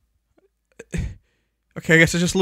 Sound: gasp of loss

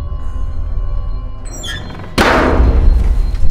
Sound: hinge squeaks then lid slams

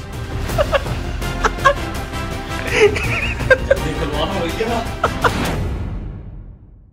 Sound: laughter

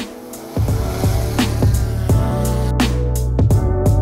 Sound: drone buzzing

